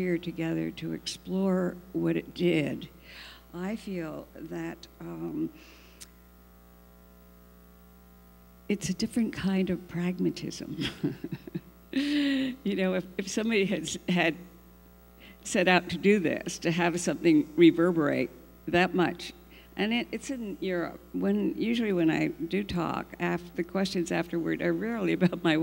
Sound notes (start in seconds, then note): 10.8 laughs